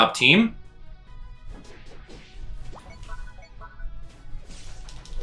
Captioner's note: fighting sounds